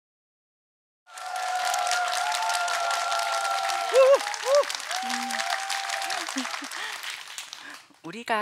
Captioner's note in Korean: 청중들의 환호